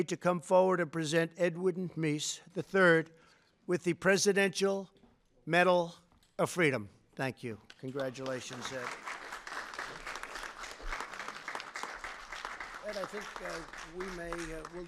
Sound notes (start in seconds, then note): 7.8 applause